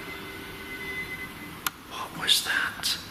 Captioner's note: tapping